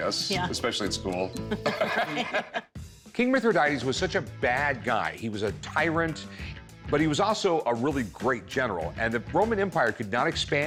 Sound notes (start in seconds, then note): 1.4 laughter